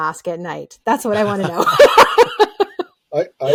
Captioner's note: laughing